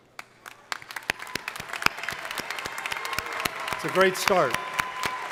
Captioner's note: crowd applauding